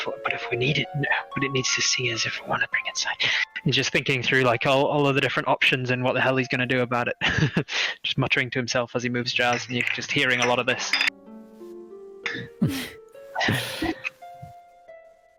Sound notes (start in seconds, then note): 7.6 laughs; 9.5 jars clanking; 13.5 soft exhales from the group